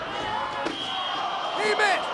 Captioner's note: spectators exclaiming